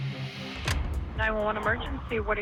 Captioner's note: clicking